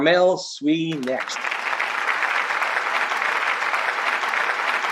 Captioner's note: applause